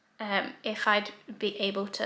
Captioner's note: none